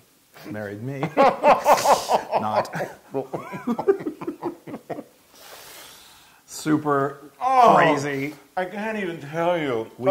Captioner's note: laugh